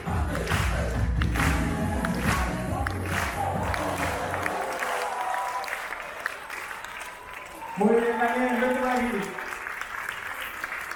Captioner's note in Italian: Applauso